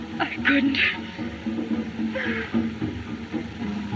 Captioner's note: sobs